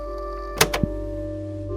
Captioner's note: click